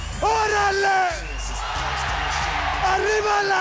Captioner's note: crowd cheering